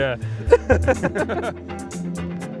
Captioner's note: laughs; chill music